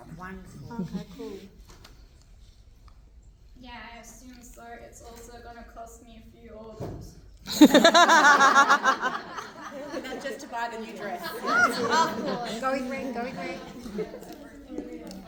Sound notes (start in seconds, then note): 9.6 laughter